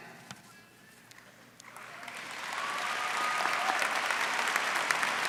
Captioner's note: applause